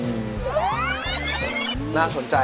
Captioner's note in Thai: เสียงเอฟเฟกต์